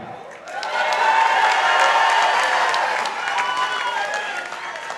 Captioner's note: participants applauding